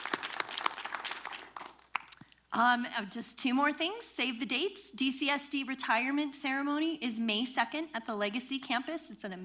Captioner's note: applause